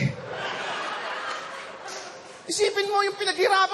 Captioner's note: laughter